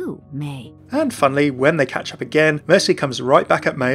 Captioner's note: voiceover